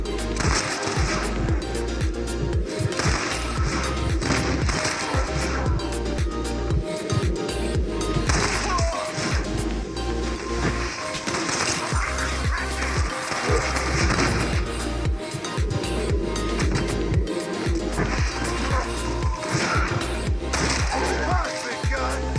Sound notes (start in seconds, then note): 0.1 sounds of self-control ending and firing; 8.4 screams of pain and self-control ending activated; 22.1 enemy fires